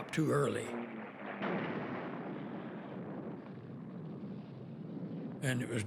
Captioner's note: explosion